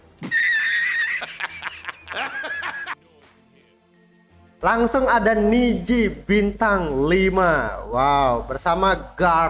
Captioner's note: laughs